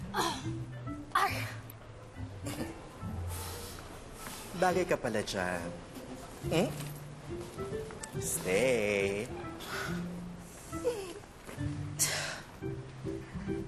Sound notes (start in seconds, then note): 2.4 chuckles; 11.9 Takong sighs playfully; 12.5 silly music